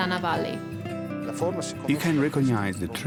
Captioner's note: speaks italian